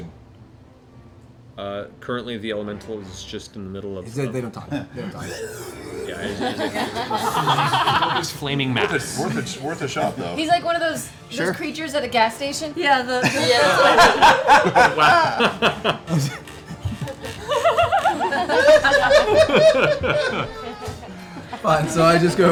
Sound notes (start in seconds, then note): 13.2 laughter